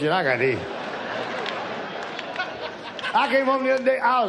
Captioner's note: audience laughs